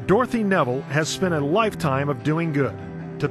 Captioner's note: voiceover